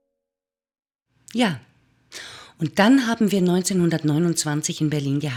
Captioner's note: German speaking continues